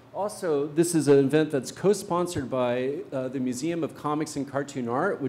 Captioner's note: none